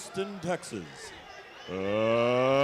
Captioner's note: bell ringing